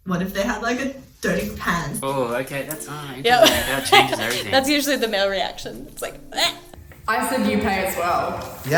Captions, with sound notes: what if they had like, a dirty hands? - Oh! Okay. That's-- (laughing) that changes everything. - That's usually the male reaction. It's like, (gagging noise) - I said you pay as well.